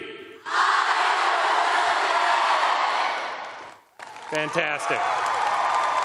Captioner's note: cheers and applause